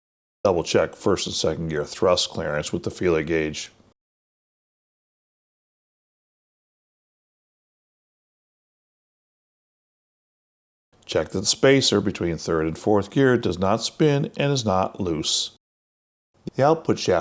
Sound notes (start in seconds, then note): 5.1 silence